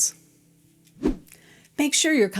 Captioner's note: air whooshing